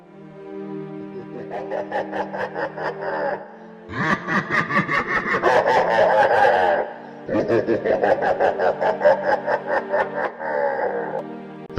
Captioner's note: evil Laughter